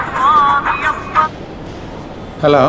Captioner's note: mobile ringing